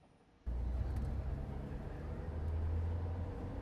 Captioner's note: car rumbling